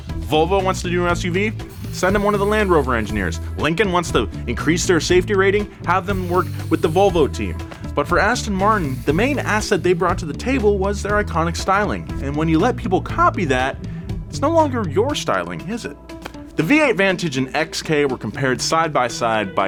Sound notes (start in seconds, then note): none